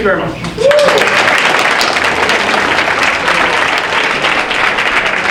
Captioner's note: audience applauding